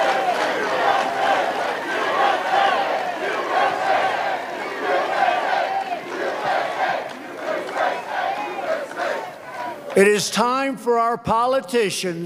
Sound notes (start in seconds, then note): 0.0 chanting, "u.s.a.!"